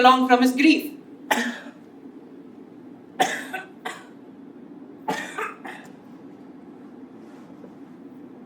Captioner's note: coughs